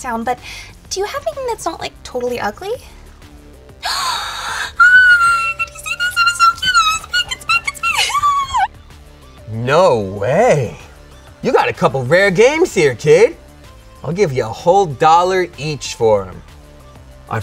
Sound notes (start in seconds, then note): 3.8 screams; 7.7 squealing